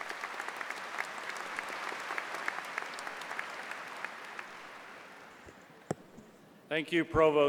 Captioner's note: applause